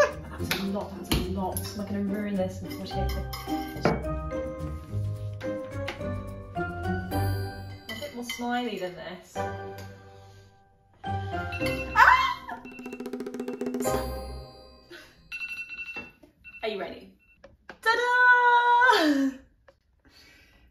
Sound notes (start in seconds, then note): 12.6 timer sounds